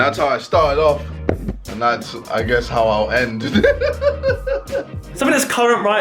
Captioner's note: laughs